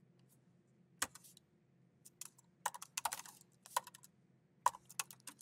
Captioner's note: keyboard clacking continues